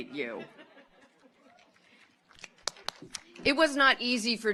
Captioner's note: audience laughs